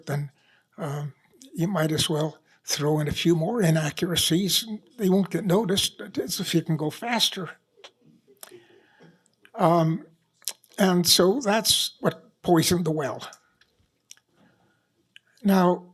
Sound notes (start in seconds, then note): none